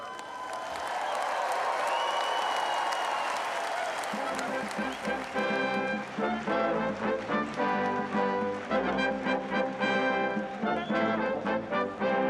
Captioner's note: applause